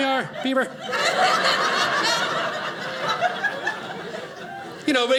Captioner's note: audience laughing